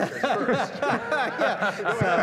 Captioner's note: laughter